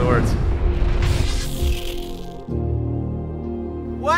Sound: swoosh sound

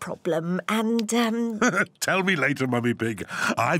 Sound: laughs

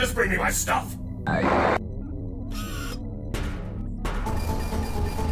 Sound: screen buzzes; suspenseful synth music

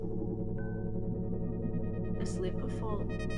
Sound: electronic humming

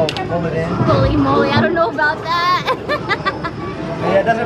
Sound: laughing

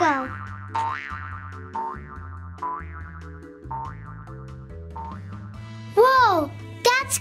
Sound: bouncing spring noises

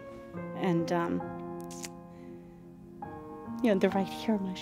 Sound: voice breaking with emotion

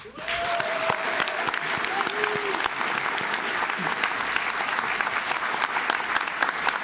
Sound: audience cheers; audience claps

